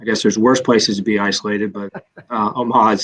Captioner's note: laughter